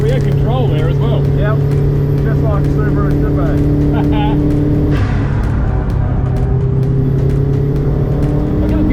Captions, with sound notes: We're in control here as well. - Yep. Just like Subaru should be. (laughs)